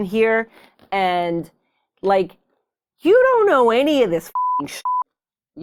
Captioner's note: beep